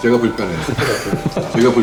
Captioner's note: laughs